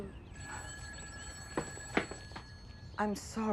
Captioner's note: phone ringing